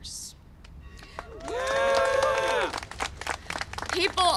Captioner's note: applause and cheering